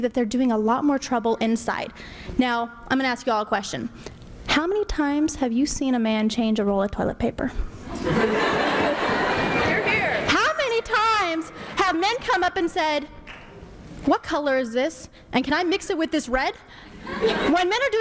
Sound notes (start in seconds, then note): 7.9 laughter erupts